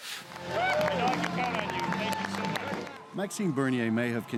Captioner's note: applause